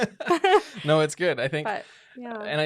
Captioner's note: both laughing